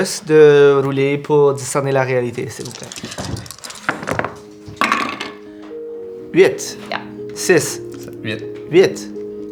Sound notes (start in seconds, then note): 2.5 rolling dice